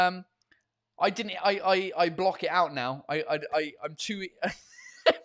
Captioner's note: laughing